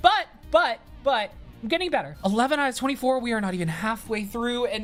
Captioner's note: none